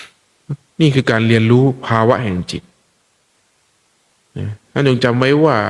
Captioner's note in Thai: เสียงสูดหายใจ